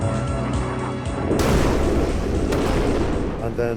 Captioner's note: intense music; booming explosions